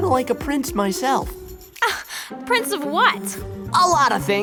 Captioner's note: scoffs